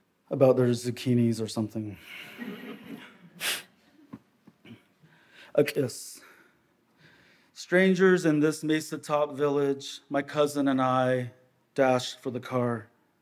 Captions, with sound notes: about their zucchinis or something. (audience laughs) "A'kis". "Strangers in this mesa top village, my cousin and I dashed for the car.